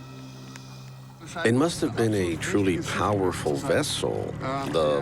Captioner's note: in German